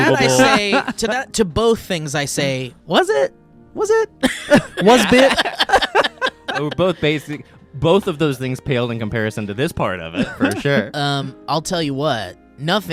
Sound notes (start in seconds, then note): 4.2 guy laughing